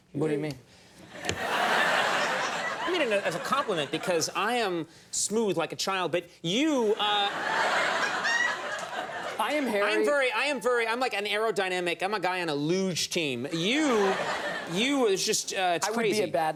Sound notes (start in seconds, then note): 1.1 audience laughs; 6.9 audience laughs